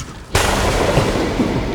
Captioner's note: thunder